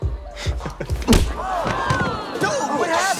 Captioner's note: crowd groans